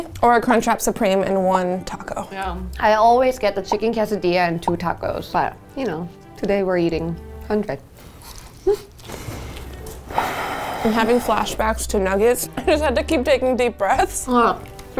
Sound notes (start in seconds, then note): 10.0 sighing